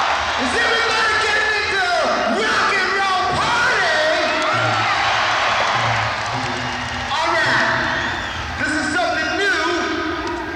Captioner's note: cheering